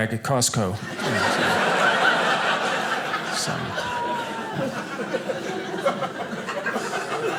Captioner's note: audience laughing